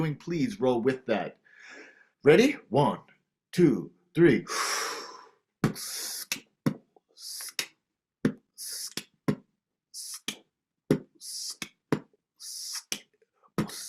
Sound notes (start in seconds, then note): 4.1 inhales deeply; 5.5 beatboxing